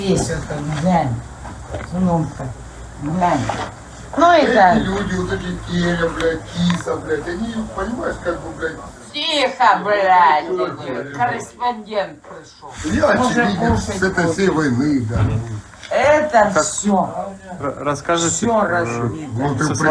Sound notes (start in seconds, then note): 5.4 men chatting and drinking